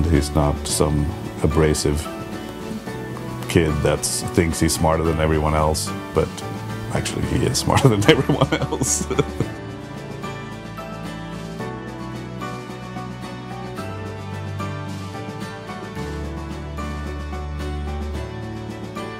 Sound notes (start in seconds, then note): 7.7 laughs; 10.6 upbeat music